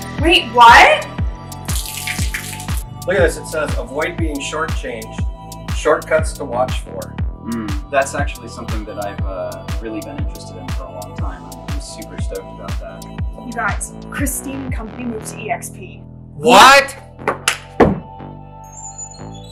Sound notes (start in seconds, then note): 1.6 water splashing; 17.2 clap